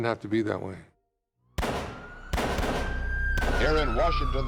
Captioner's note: gunshots and siren wailing